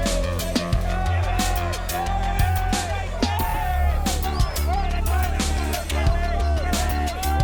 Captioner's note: yelling and jeering